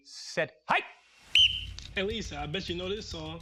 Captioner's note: whistle blows